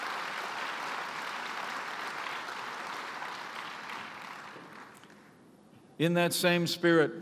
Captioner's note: applause